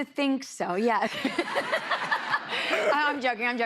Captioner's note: laughter